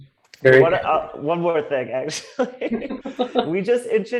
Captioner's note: laughs